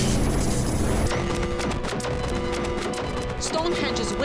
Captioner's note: alarm blaring